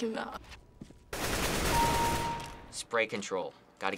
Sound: firing; kill chime

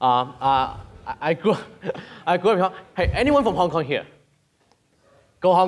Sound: laughs

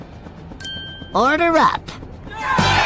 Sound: tinkling; cheering

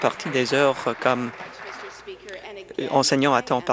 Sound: applause

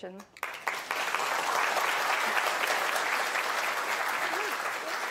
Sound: audience applauding

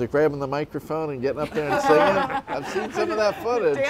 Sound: laughs

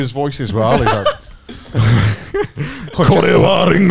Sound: everyone laughs

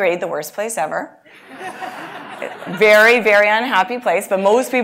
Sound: laugh

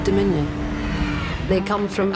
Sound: ship lands

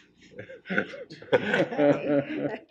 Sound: laughing

